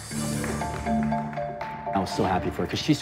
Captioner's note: applause